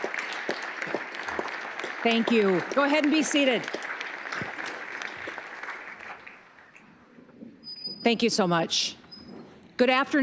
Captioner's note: applause